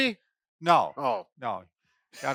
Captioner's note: laughs